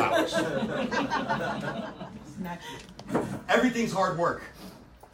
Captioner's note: audience laughs